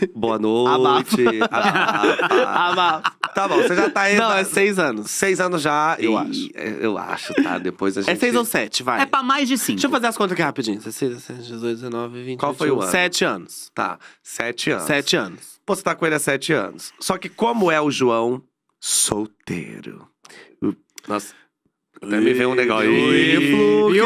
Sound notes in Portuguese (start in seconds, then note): 0.5 risos